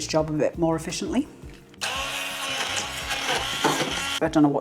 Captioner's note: blender whirring